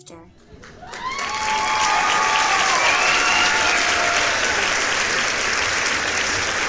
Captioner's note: applause